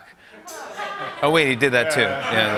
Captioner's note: laughter